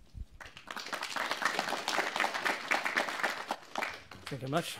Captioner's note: applause